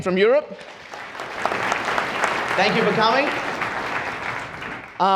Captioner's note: audience applauds